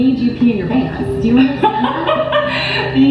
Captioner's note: laughing